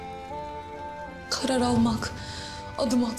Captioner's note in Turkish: İç çekiyor